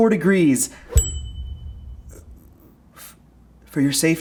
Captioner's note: bell dinging